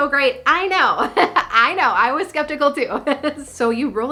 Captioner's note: laughing